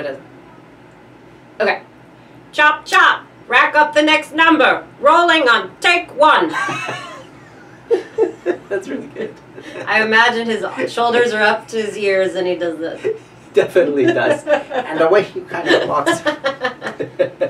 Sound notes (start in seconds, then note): 6.6 laughs